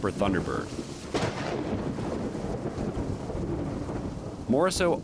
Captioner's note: thunder crackling